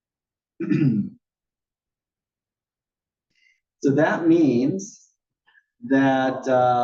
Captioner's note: cough